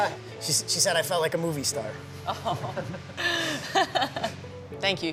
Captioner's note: laughing